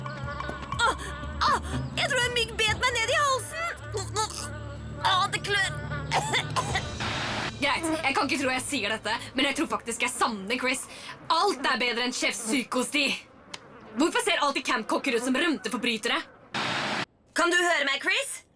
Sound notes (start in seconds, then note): 0.2 gasps; 6.0 coughs